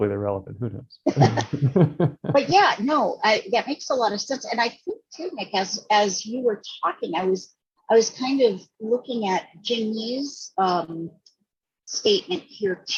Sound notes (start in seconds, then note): 1.1 laughing